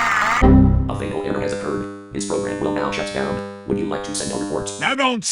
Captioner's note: in RoboSoft Two's voice